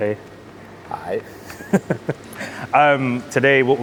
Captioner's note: chuckling